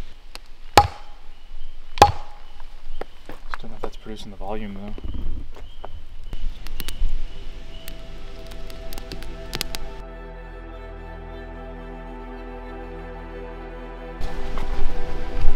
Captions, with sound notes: (wood banging) Just dunno if that's producing the volume though. (suspenseful music)